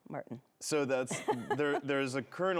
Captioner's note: laughs